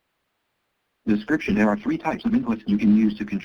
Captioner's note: voiceover